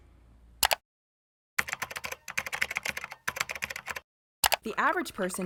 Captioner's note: computer keyboard typing